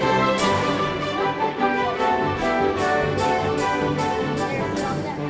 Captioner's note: joyful music continues; family chattering